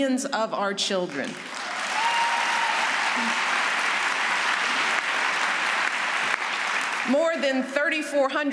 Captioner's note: applause